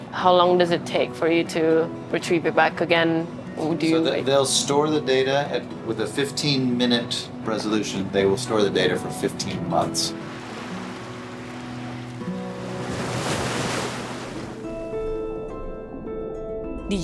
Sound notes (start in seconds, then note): 12.3 waves sounding; 14.6 mellow music